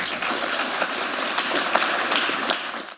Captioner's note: applause